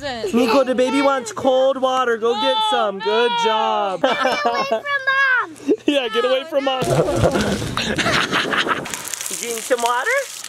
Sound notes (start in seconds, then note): 4.0 laughs; 6.8 evil laughter